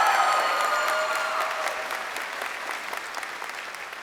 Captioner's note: crowd cheering